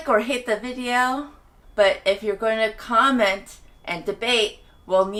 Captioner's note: annoying beeping sound, because construction outside. TT